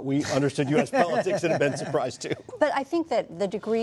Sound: laughter

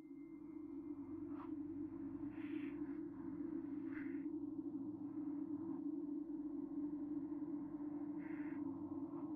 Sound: muffled rumbling, breathing

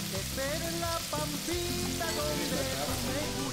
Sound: oil simmering

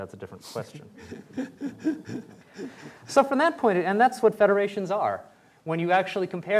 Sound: laughter

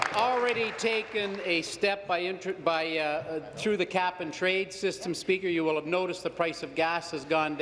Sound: applause

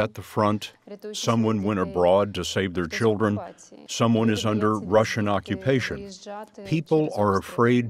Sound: Russian

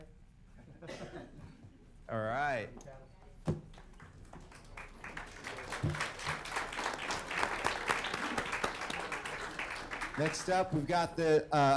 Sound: applause

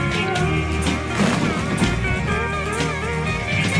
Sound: thunder crash

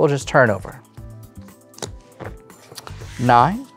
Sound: cards slap on table

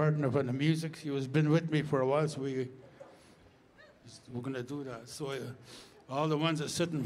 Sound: speaking Indigenous LANGUAGE

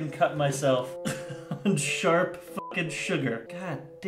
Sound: chuckles

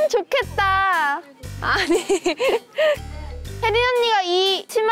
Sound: hahaha

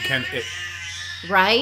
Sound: baby crying

